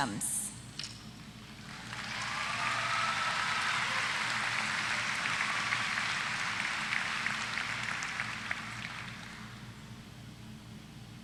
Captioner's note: applause